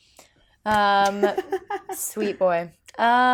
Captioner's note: laughing